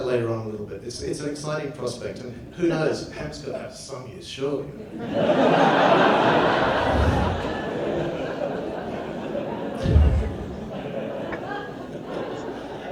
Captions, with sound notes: later on in a little bit, it's an exciting prospect and who knows? Hemp's gotta have some use surely. (audience laughs) (laughs)